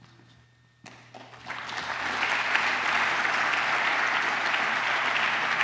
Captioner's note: applause